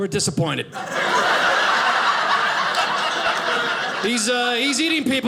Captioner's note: audience laughing